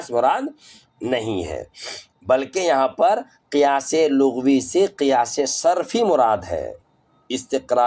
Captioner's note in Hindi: नाक से की जाने वाली आवाज़